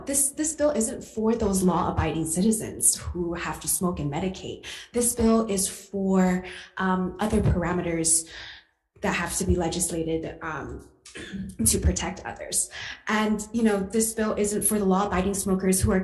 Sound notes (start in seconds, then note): none